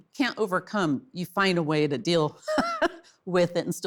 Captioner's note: laughs